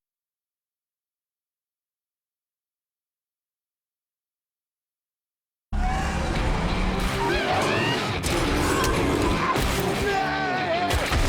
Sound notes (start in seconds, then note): 5.7 roaring; 7.3 screaming